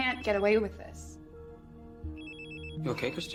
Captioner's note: phone continues ringing